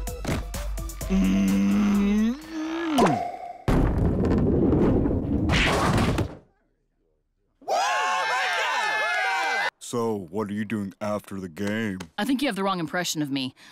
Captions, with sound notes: (groans) (whacks) (cheers) So, what are you doing after the game? - I think you have the wrong impression of me.